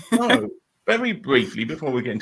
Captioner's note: laughing